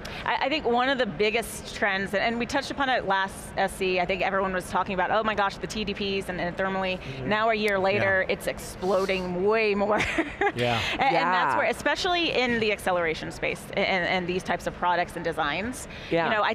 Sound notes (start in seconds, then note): 10.0 laughing gently